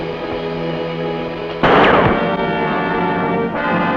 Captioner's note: gunshot